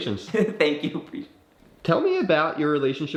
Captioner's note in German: lacht